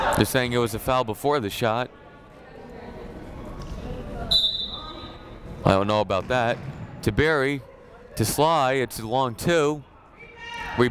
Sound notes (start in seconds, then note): 4.3 whistle blowing